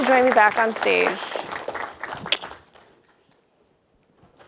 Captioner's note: public applauds